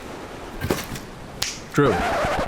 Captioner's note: seagulls and ocean waves rolling in; snaps fingers; record scratching sound